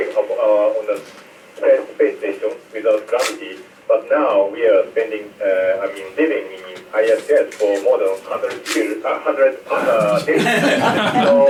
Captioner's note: Static; laughter